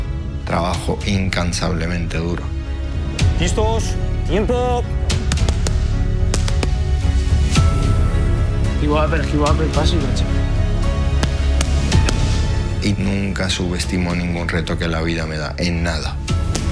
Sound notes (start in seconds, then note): 3.6 trainer speaking in Spanish; 6.2 strikes rapidly thwacking pads; 9.4 trainer speaking in Spanish; 11.1 strikes violently thwacking pads; 15.0 speaking in Spanish